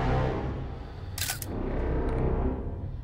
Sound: camera clicks

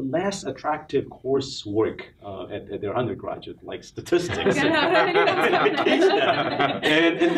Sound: laughs

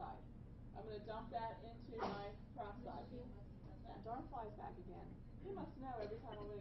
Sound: student sneezes

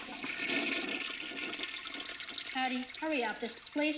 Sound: toilet flushing

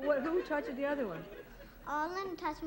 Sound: laughter

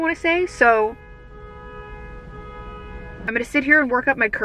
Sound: horn honking

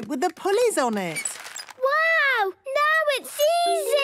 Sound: none

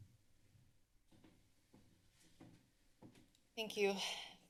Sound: footsteps

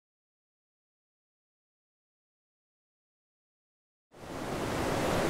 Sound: no sound; water roars all around as the falls rush

